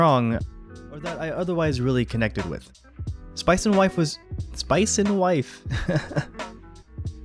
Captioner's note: laughter